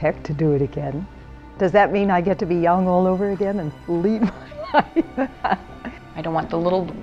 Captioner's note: laughing